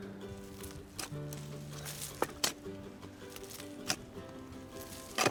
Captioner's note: shovel thumping